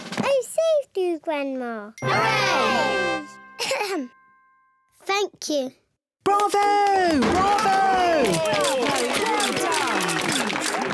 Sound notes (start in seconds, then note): 2.4 all cheer; 3.5 clears throat; 7.3 all cheer, applaud